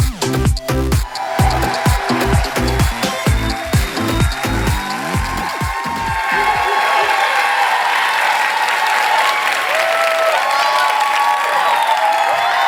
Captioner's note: cheers; applause